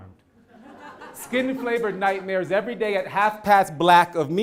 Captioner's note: laugh